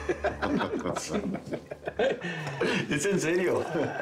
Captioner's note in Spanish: Risas